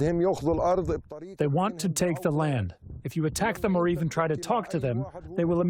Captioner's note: through translator